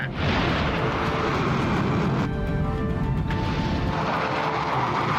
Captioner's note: engines whooshing